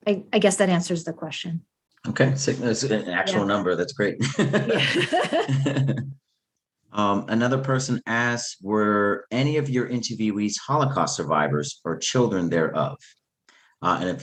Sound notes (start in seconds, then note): 4.1 laughs